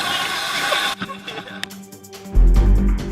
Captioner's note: laughter